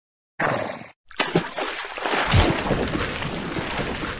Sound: splash

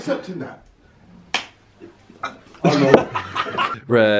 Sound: slapping hand; bottle plops; laughing

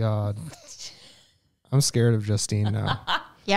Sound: chuckles

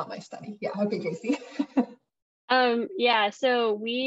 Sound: chuckles

